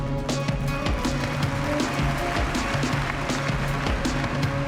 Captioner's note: cheering and applause